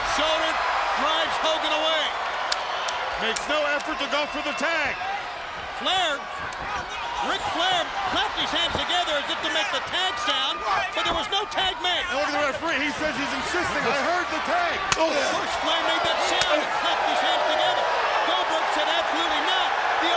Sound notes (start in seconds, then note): 2.5 Flair clapping; 14.7 hand slaps